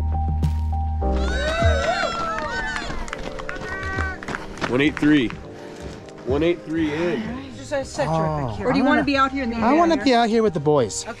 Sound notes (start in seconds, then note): 1.1 crowd cheering and applauding